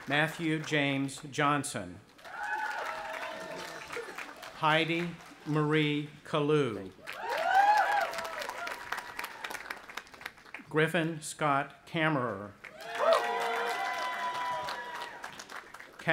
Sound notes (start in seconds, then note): 2.2 cheering; 7.0 audience applauding and cheering; 12.6 cheering